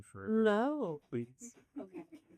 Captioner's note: laughter